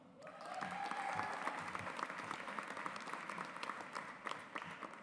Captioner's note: audience applauds